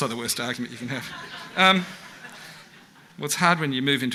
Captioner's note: audience laughs